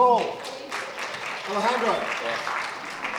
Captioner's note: applause